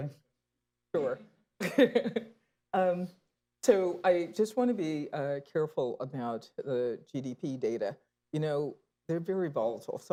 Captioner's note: laughs